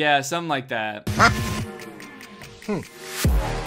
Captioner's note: duck quacks